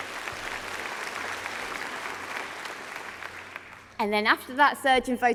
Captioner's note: applause